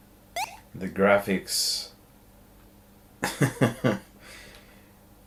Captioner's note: laughing